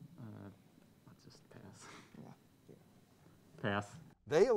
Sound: team murmuring

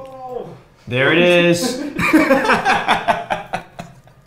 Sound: laughter

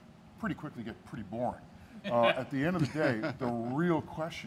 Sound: laughing

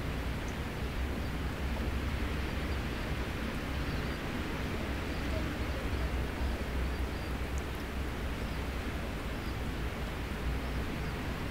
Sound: sounds of the seashore

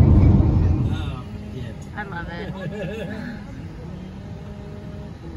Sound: chuckling

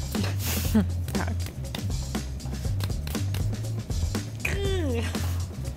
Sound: hands thumping

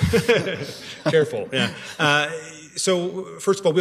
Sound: laughter

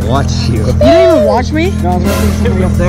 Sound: dramatic buzzer

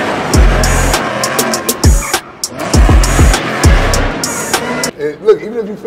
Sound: car engine revving; tires screeching

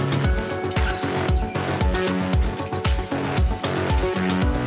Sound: gloves squeaking

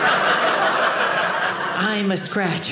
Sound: audience laughing

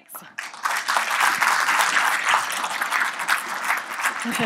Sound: applause

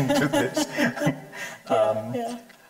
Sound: chuckling

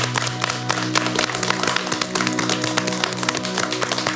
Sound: applauds

